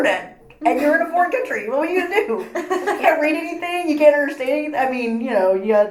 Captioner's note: laughs